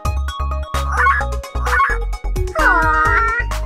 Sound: dinosaur yelps

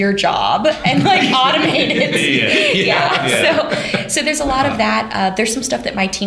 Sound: laughter

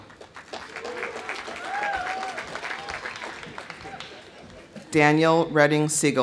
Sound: audience applauding; audience cheering

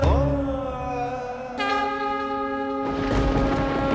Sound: conch blows

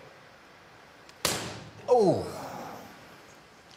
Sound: bang

